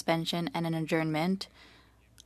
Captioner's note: speaking French